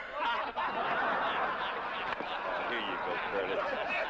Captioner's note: all laughing